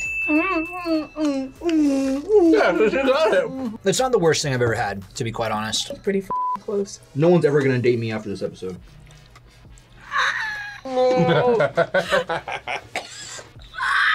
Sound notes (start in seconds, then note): 0.0 bell rings; 0.2 whimpers; 10.1 laughs; 12.7 coughs; 13.9 squeaks